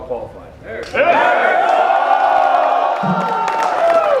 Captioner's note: crowd cheering